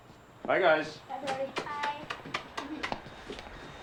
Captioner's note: smooching; both chuckling